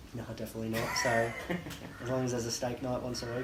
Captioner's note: laughs